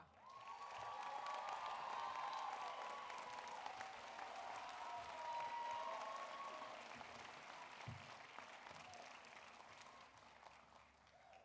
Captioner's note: applause